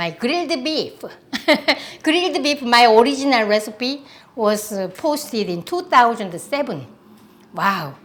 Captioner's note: laughs